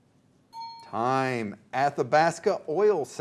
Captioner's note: ding